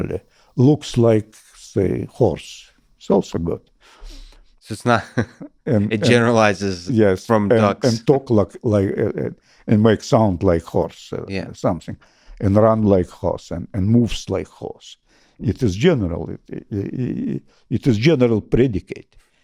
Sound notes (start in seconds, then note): 4.9 chuckles